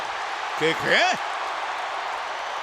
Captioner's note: applause